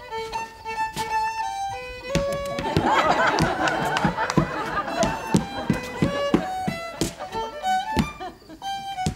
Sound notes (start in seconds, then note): 2.6 crowd laughter; 5.8 fiddle Music